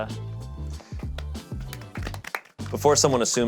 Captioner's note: all clapping